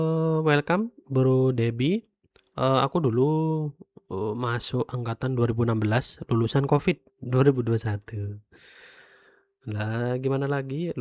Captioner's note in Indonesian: terkesiap